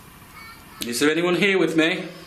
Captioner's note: child babbling